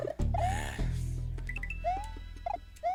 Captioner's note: sigh